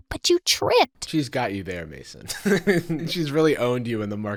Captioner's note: laughs